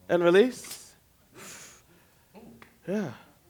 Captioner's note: exhale